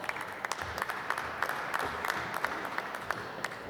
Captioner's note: applause